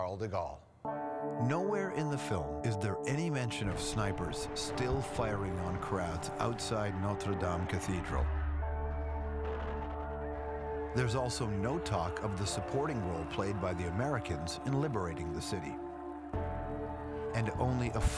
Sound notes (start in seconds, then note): 8.6 gunfire and screaming